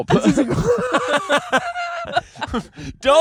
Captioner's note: laughing